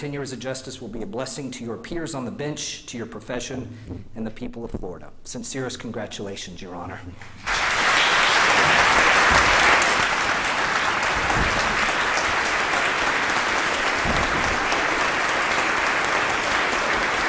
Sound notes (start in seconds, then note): 14.8 applause